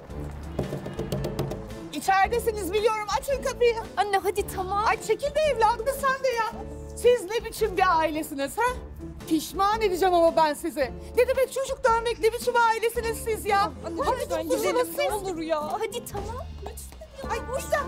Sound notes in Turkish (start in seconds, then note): 0.5 Kapı Çalıyor